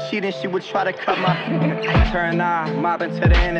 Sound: woman laughs

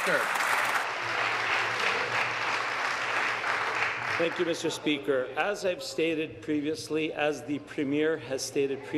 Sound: applause

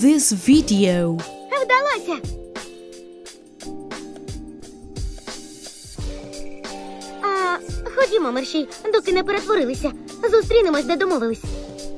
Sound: speaks in ukrainian

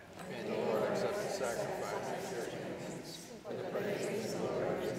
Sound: congregation responding

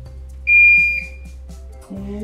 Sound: device beeps

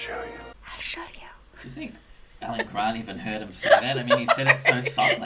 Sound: whispers something into mic

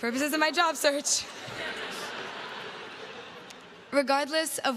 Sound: crowd laughs

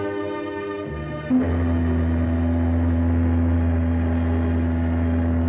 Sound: ship horn honking

